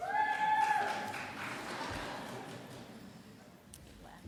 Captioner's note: applause